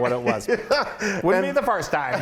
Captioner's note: laughing